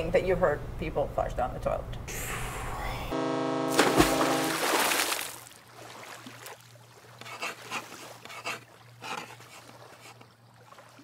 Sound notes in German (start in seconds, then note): 3.1 Hupe dröhnt